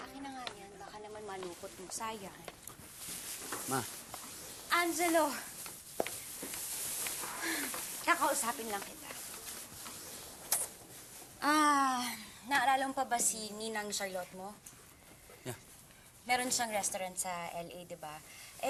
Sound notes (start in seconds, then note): 7.3 sighs